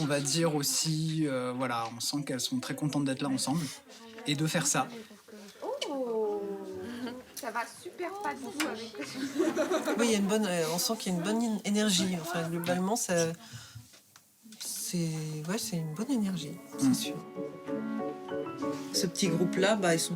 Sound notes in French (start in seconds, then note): 9.0 rires